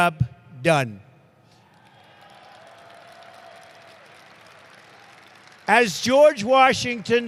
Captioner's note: applause